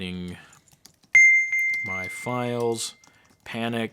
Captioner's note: bell dinging